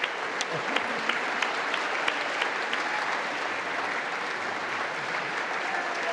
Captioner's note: congress applauding